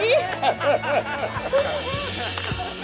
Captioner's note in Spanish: Risas